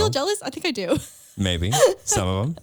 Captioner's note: laughs